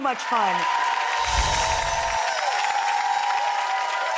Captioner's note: audience applause